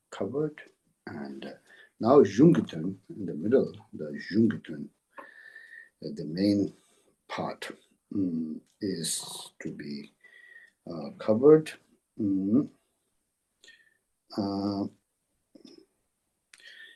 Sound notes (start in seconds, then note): 4.2 tibetan